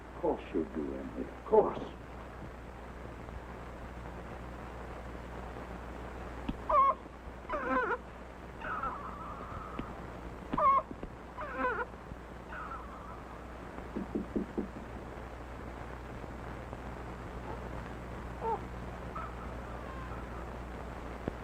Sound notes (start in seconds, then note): 6.6 baby crying; 13.9 knocking